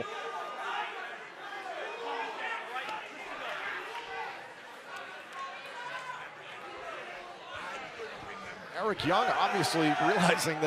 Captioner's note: crowd chatter